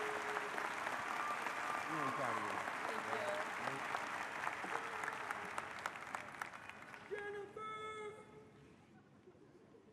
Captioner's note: applause